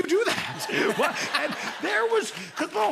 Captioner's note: laughter